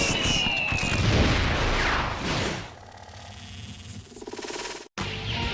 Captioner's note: fireworks Whistle, Rapid Explosions